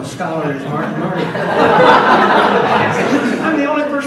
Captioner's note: audience laughs